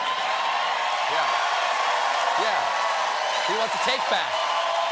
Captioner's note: cheers and applause